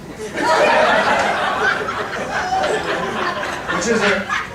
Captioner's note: audience laughing